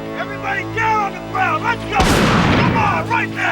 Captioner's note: shotgun blast